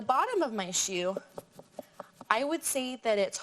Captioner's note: fingers thumping